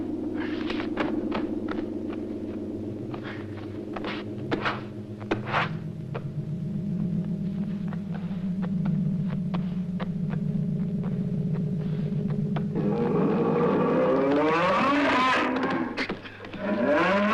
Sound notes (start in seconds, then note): 12.8 bull roaring